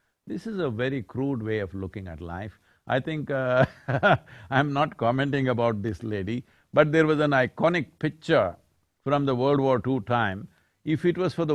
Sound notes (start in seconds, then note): 3.6 laughs